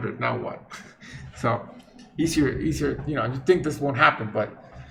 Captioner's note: chuckles